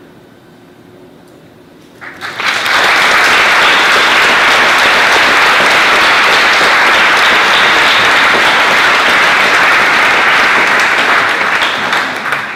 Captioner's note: applause